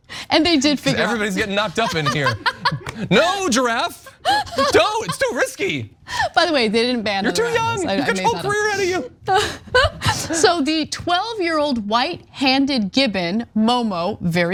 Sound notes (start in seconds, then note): 4.0 laugh; 7.2 laugh